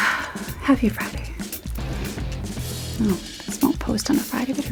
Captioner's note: sigh